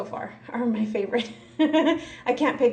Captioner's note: laughs